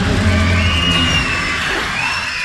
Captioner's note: brood mother screeches